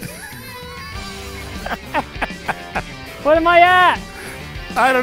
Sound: laughing

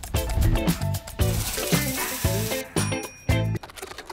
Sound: pancakes sizzle; bell dings

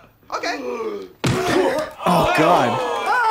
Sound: punch thudding

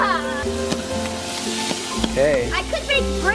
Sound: yells; water fizzes

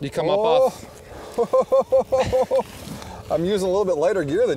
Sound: laughs

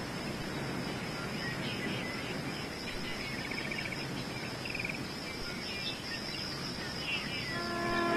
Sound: birds chirping

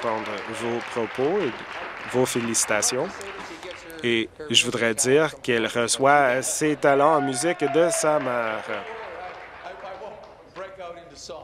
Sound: some Applause

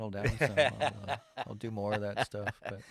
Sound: laughs

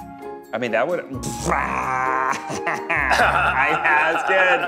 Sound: laughing

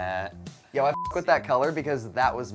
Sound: beep

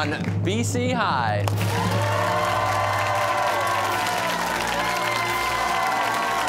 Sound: cheers and applause

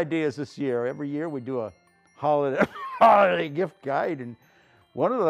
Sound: cough

